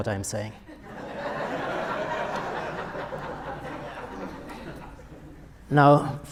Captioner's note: audience laughter